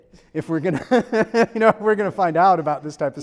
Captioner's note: laughs